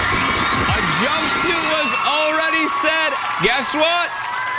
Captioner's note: cheers and applause